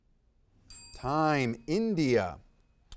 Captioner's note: bell ringing